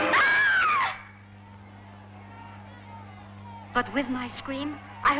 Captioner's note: screaming; people shouting in distance